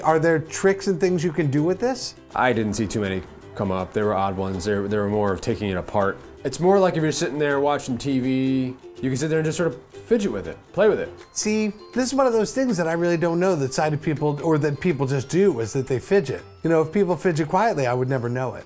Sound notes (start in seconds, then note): none